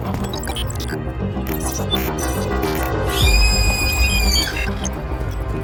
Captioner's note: dreamy electronic music intensifies; robotic beeps and shrieking sound